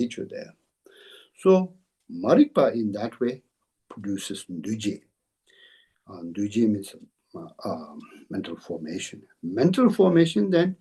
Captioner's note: tibetan